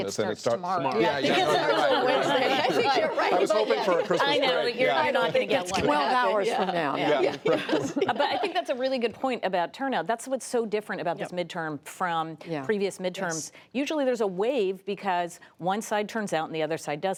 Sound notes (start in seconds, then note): 3.4 laughter